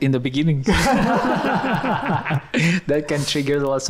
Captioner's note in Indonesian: tertawa